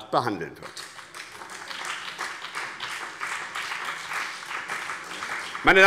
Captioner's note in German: Beifall BÜNDNIS 90/DIE GRÜNEN und vereinzelt CDU